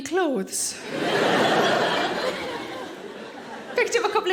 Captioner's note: audience laughing